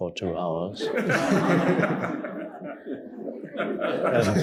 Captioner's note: audience laughing